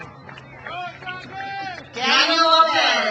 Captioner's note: crowd cheers